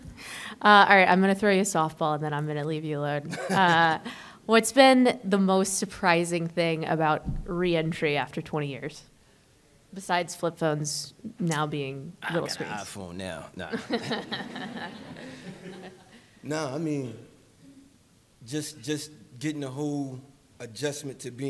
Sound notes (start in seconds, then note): 13.7 laughter